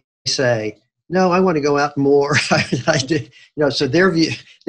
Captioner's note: giggles